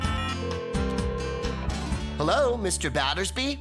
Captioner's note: phone Ringing